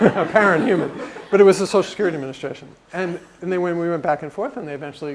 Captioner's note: laugh